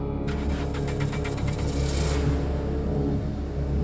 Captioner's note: engine rumbling